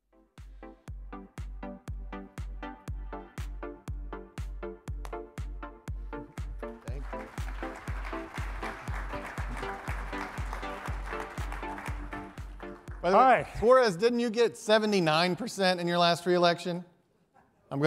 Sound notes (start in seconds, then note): 0.2 instrumental music; 6.8 audience applauding